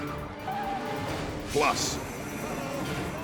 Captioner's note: tires screeches